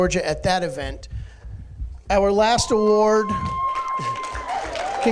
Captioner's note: cheering